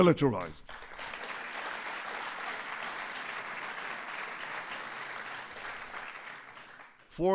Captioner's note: applause